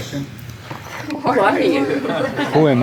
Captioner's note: laughs